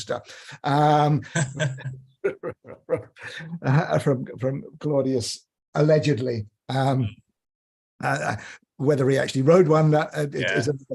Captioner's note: laughter